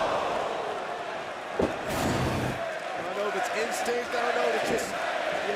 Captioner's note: crowd cheering